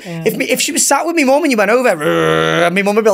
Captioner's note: growls